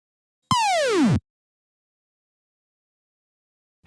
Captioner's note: video game blip